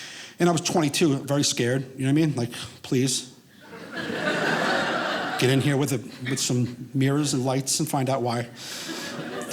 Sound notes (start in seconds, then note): 3.6 audience laughing